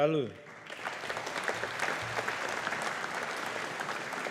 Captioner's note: audience applauding